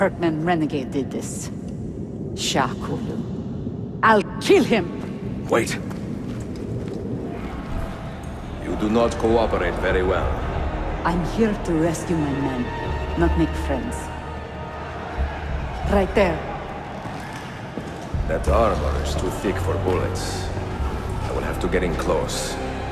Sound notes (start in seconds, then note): 14.1 Crowd cheering